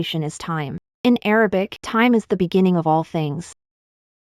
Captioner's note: in Arabic